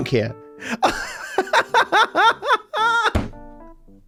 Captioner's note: laughs